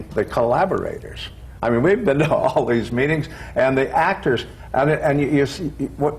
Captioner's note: laughs